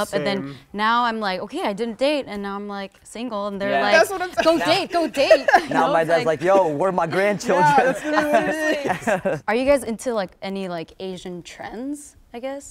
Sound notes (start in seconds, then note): 5.6 group laughter; 8.3 group chatter in agreement